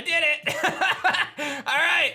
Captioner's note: laughs